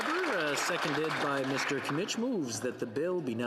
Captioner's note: some Applause